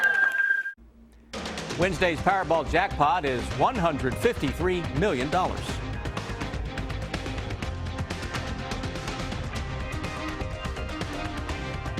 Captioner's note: applause